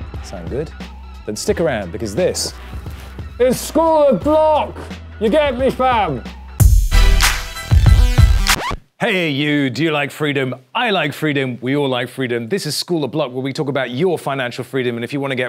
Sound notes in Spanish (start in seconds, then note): 3.2 Gritando; 6.5 Música temática; 7.6 Rasguño